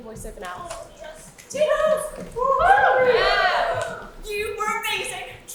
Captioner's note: audience cheers